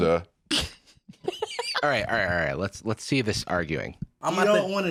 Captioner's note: laughs